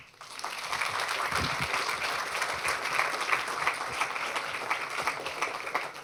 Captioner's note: applause